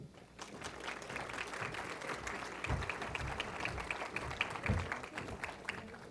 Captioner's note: applause